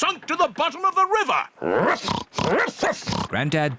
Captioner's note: oinks; barks